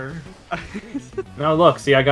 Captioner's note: laughing